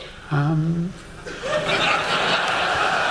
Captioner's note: laughter